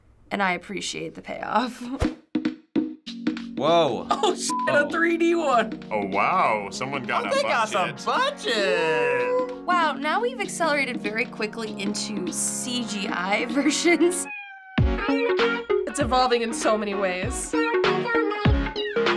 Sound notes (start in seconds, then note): 2.6 bongo music; 14.2 Bongo Cat meows